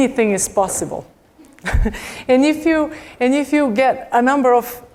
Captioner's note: laugh